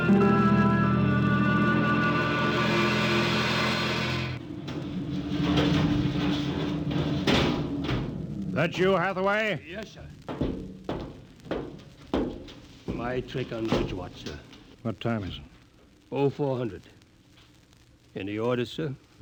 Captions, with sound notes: [dramatic music] [thudding] That you, Hathaway? Yes, sir. My trick on which watch, sir. What time is it? Oh, four hundred. Any orders, sir?